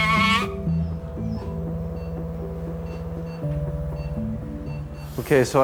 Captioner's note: gentle music; machine beeping